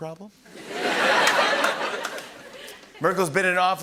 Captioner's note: laughter